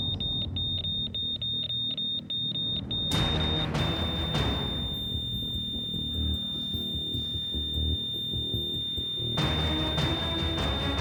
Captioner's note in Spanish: sonido irregular del monitor; sonido continuo del monitor